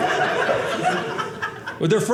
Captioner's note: audience laughing